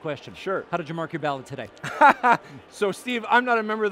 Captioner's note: laughing